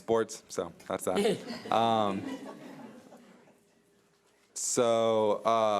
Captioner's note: audience laughs